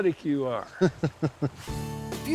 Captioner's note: laughing